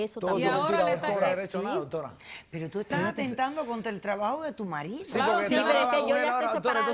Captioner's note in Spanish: Hablan al unísono